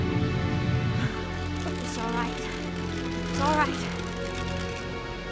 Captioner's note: tearing Continues